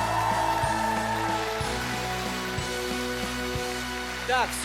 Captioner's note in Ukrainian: оплески